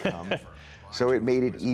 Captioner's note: laughter